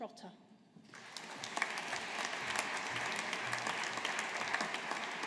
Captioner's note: audience applauding